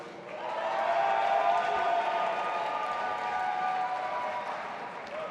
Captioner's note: audience applauding and cheering